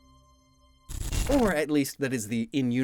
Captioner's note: multiple glitch SFX